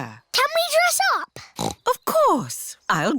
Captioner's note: snorts